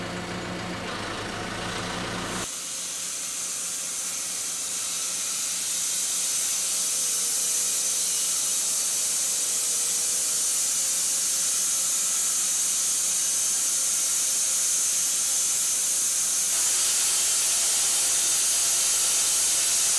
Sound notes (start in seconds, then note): 3.0 machine sawing; 16.5 machine sawing